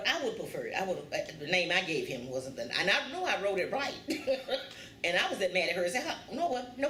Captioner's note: laughs